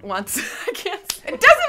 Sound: laughs

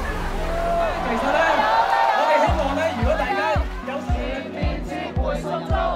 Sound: applause

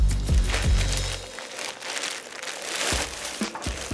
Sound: bags crinkle

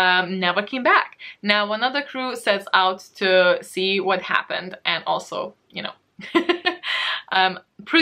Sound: laughs

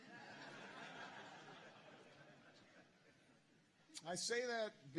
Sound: laughter

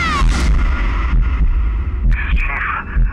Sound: heartbeats

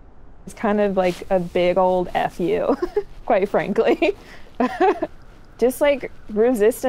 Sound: laughs

